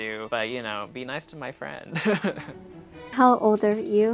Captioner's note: laughs